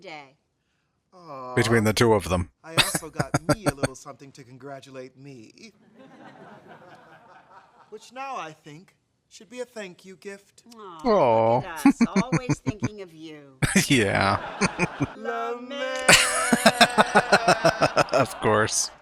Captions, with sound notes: Between the two of them. [Laughing] Aww. [Chuckling] Yeah. [Chuckling] [Laughing] Of course.